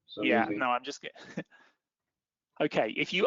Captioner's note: laughs